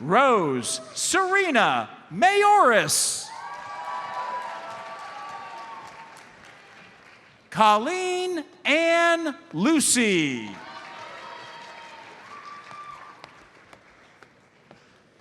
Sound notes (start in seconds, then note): 3.2 audience cheers and applauds; 10.3 audience applauds